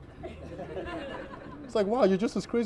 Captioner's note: laughter